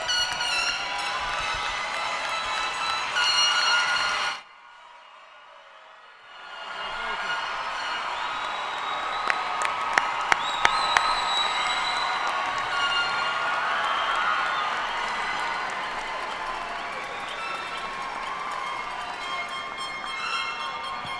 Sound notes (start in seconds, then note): 0.0 cheers and applause; 1.7 air horns; 9.8 cheers and applause